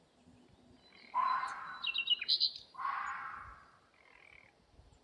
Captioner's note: creature shrieking